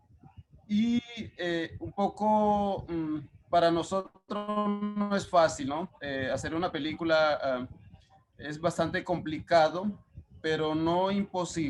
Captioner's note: speaking Spanish